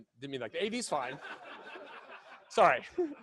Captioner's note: laughing